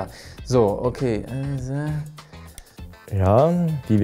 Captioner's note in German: Nachdenkliche Laute